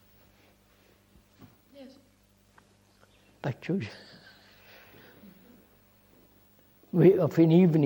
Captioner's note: laughs